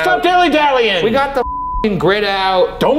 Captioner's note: beep